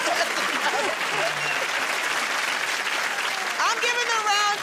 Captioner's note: applause